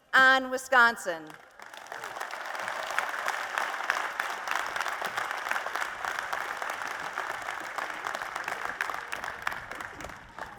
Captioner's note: applause